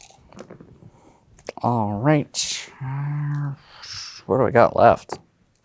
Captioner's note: dice rattling; dice rolling; grumbles